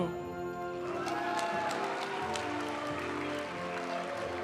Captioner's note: audience cheering and applauding; graduation music